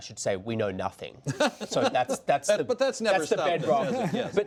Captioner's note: laughter